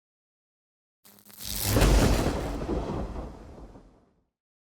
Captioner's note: thunder zapping